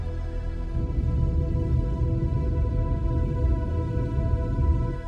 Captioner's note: soft celestial music continues; submersible droning